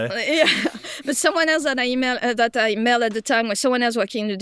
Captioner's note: chuckles